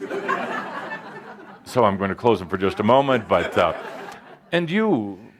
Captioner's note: laughter